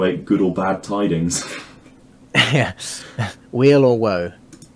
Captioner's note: chuckling